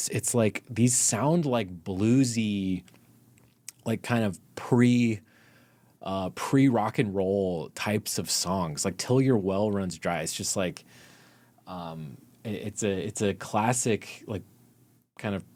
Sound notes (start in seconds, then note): none